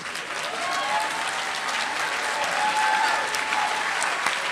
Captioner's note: applause